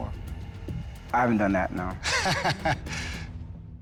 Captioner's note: laughs